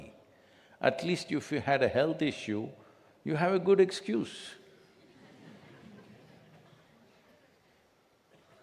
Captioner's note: few Laugh